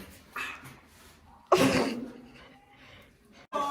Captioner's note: snort; cheering